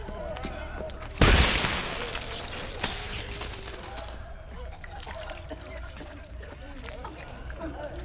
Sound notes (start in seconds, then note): 3.3 all groaning